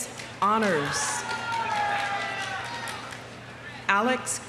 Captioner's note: audience cheering; audience applauding